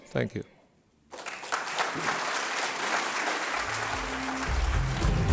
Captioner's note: audience applauds; upbeat electronic music